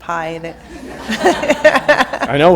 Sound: laughter

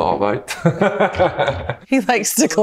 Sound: laughs

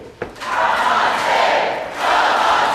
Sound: audience chants

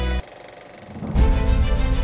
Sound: upbeat music continues; reel clicking; dramatic music

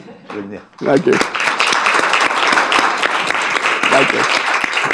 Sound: audience applauding

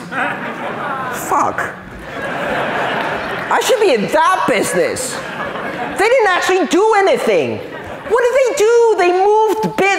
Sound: laughter

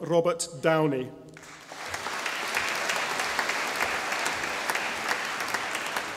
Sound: audience applauding

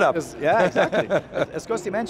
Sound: chuckles

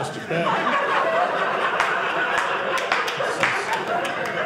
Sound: audience laughing

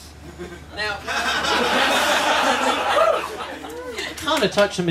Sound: laughter

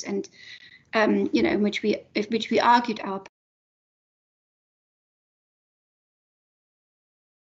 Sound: sound cuts out

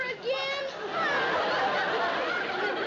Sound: laughter

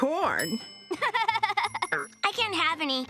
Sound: laughing

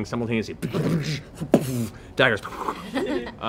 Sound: mimics battle sounds

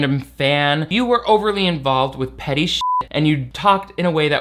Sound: beep

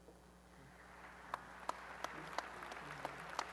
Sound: applause

